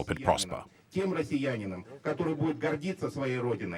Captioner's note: Russian spoken audio